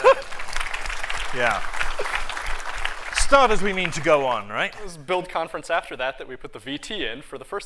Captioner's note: applause